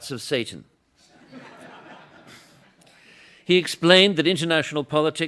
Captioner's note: laughter